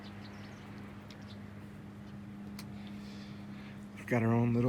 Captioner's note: birds chirping